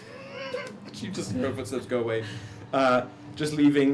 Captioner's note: laughs